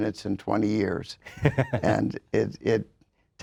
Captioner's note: laughs